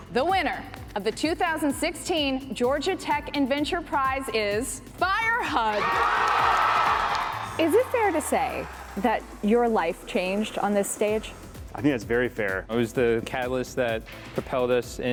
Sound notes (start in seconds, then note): 5.8 audience applauding